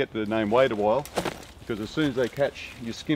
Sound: equipment thumps on ground

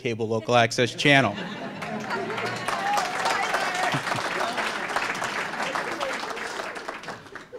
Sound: applause

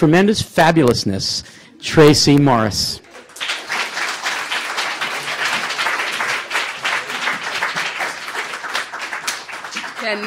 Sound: applause

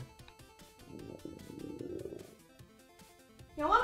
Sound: loud stomach grumble

